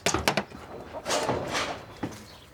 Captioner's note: soft rumbling